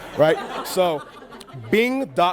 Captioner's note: laughing